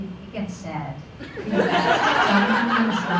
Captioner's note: laughter